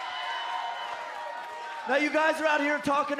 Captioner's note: cheers and applause